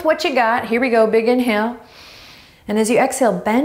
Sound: inhaling deeply

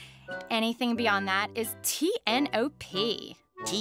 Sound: none

